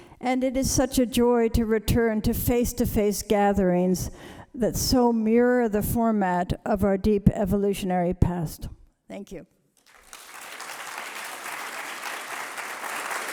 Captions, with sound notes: It is such a joy to return to face-to-face gatherings that so mirror the format of our deep evolutionary past. Thank you. [APPLAUSE]